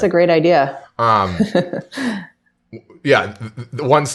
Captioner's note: laughs